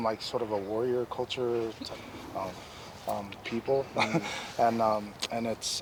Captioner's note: laughs